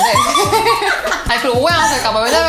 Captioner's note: laughing